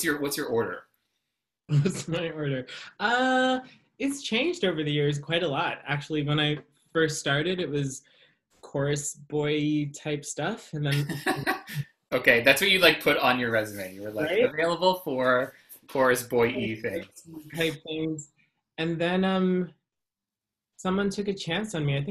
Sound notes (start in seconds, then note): 1.6 laughs; 10.9 laughs